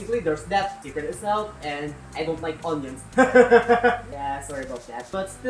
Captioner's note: laughs